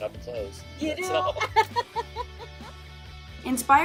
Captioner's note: laughs